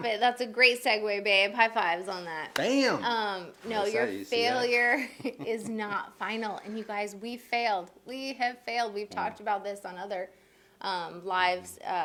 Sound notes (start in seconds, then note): 2.7 hands tapping